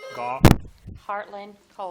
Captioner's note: buzzer dings